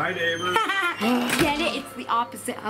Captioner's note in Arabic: يضحك